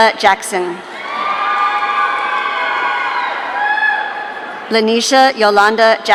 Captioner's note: audience cheering